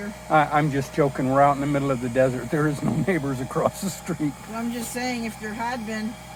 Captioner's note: laughs